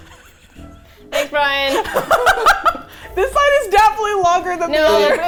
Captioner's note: laughs